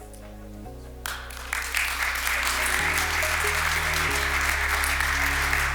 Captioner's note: audience applauds